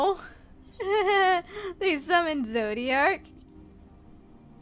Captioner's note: nervous laugh